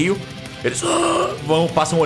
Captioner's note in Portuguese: Grunhido